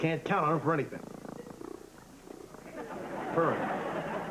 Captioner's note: purring